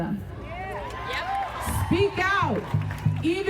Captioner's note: crowd cheering